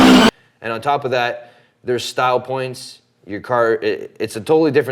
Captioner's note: engines rev